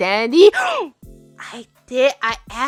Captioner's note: gasps